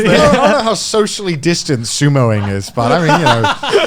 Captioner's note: laughing loudly